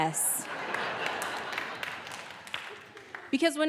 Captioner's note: audience laughing